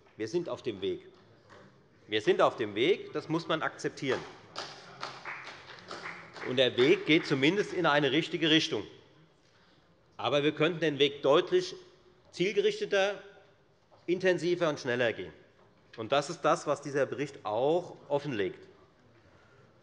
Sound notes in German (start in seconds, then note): 4.4 Beifall bei der FDP